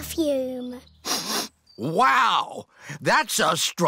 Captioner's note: sniffs